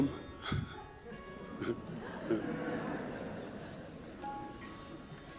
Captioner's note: audience laughing